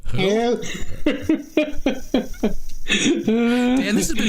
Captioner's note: laughing